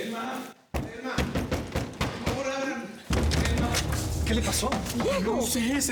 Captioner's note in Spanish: toques en la puerta